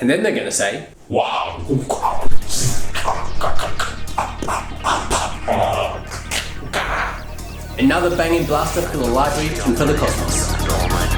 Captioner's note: alien noises